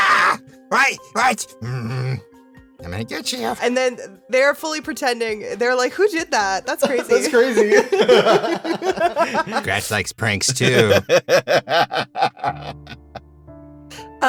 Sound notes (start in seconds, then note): 0.0 screams